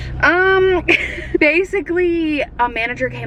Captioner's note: laughs